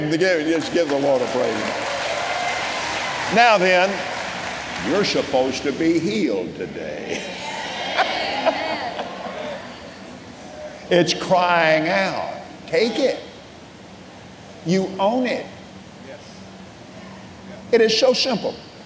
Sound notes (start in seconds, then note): 2.1 congregation clapping and cheering